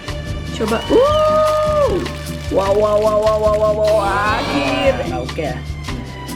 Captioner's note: cheers